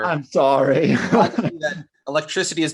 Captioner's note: chuckles